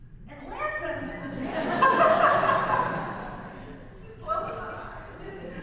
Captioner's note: audience laughs